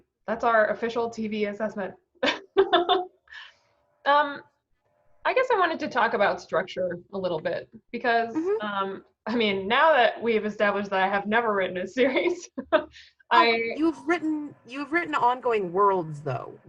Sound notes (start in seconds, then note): 2.3 laughing